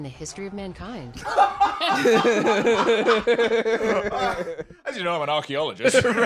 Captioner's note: both laughing